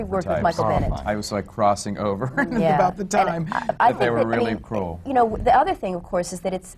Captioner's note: laughs